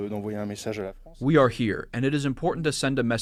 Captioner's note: through translator